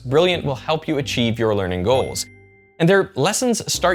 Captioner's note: audio chimes